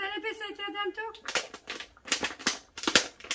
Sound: speaking in foreign language

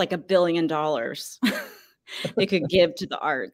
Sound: laugh

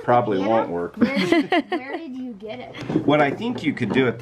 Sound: laughs

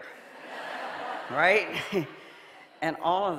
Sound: audience laughing

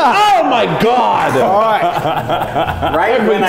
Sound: laughs

